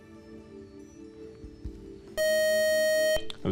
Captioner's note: time-out buzzer